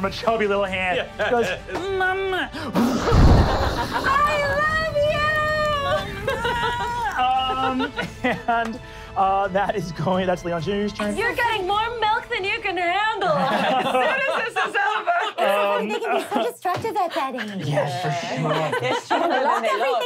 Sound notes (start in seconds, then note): 2.8 explosion; 6.6 crying; 13.3 laughing